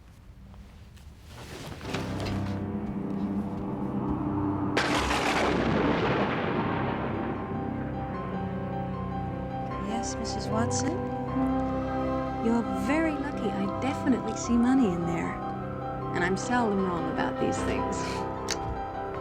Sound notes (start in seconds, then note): 2.2 tense music; 4.7 thunder crashing